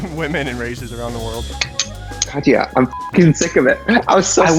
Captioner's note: laughs; beep